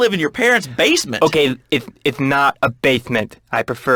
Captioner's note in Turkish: peltek konuşur